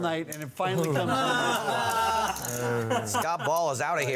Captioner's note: laughter at table